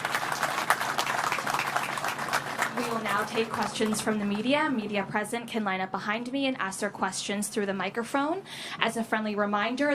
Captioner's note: applause